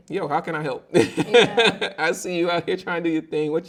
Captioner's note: laughing